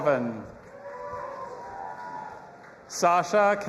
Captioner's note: audience applauding and cheering